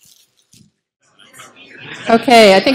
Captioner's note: chatter